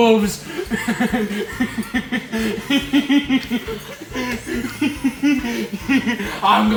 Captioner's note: laughter